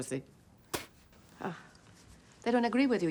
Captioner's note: spits